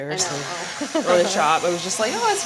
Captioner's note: Claire laughs